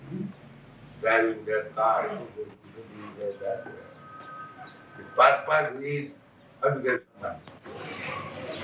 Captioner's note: makes noise of cars